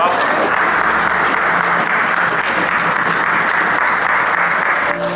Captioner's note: audience applauding